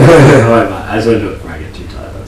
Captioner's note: laughs